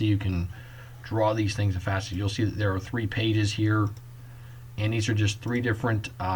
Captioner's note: click